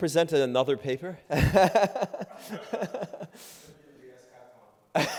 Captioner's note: laughing